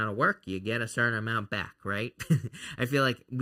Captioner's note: laughs